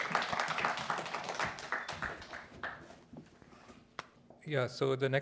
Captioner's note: applause